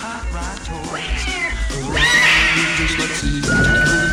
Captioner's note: Buddy squealing; police siren